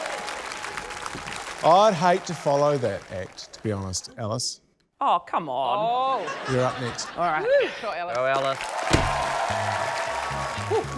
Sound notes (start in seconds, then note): 5.9 laughter